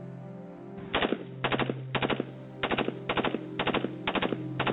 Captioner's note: gun banging